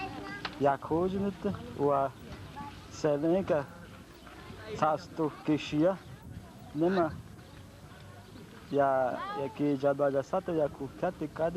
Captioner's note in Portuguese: ìndio falando em idioma indígena